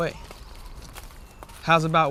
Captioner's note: birds chirp